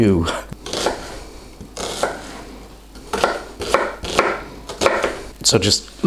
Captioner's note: chop chop slice slice slice